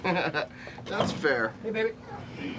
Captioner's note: laughs